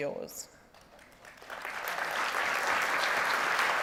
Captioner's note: applause